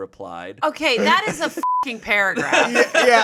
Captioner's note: beep